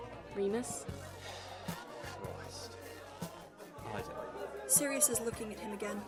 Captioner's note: he sighs